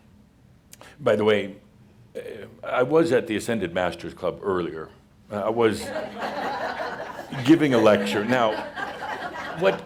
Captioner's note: laughter